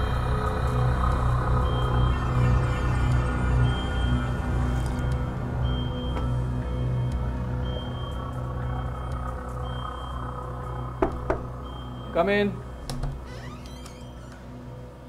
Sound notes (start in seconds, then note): 11.0 door knock